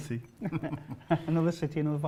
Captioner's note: laughing